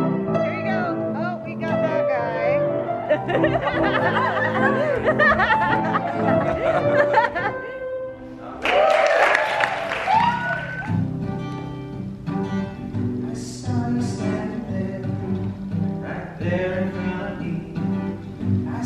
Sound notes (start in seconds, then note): 3.0 group laughing; 8.5 group applauding